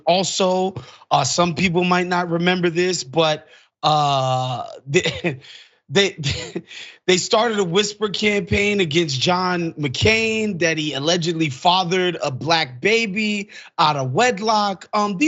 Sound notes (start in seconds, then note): 6.0 laugh